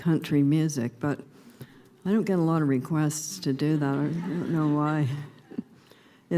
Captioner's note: laughter